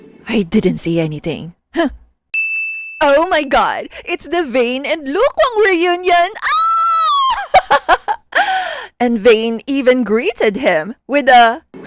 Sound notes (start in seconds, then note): 6.5 squeal lol